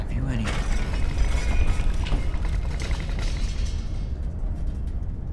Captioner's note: loud rattling